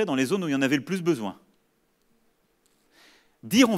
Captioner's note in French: none